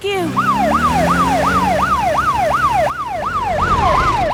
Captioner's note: siren